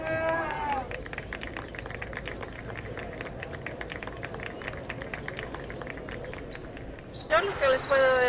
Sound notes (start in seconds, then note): 0.1 applause